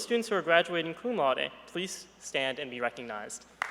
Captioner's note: applause